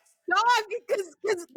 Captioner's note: laughing